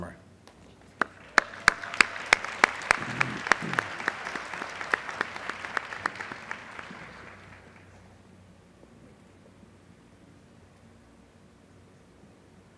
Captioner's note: applause